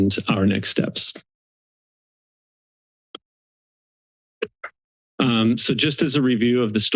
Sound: silence

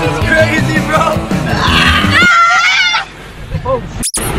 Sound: screaming

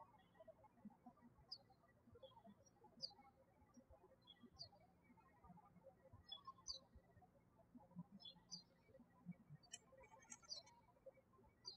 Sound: birds chirping

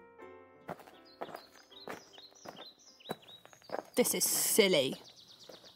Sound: FX: Walking along a path

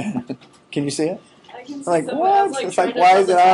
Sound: chuckling

